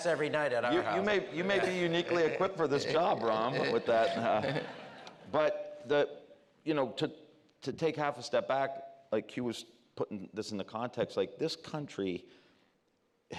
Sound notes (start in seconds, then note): 5.1 laughter